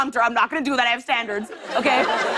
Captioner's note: laughter